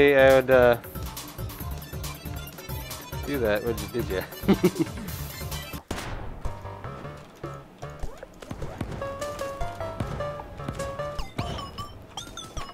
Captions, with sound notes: I'd, uh... do that, would y-, did ya? [chuckling]